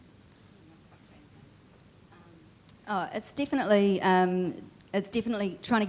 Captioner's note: speaking faintly